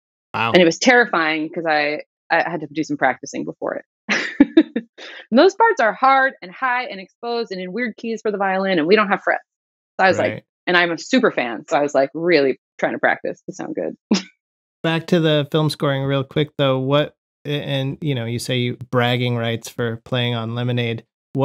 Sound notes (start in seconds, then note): 4.1 laughter